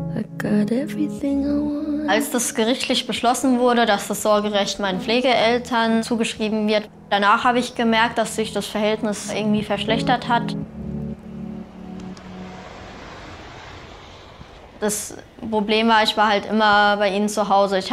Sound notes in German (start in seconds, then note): 12.1 Straßenlärm